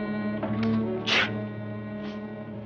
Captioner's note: sneeze